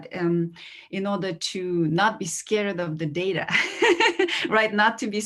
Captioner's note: laughs